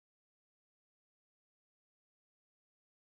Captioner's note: none